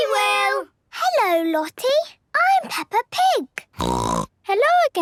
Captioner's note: snorting